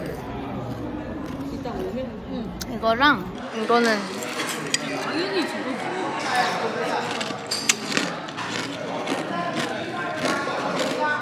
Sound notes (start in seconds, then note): 6.7 slurping sound